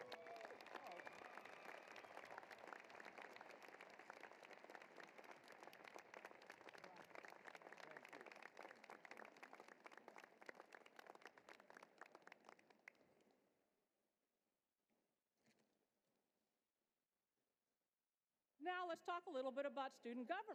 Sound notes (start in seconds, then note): 0.0 cheering and applause